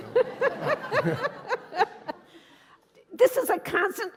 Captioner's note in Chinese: 笑聲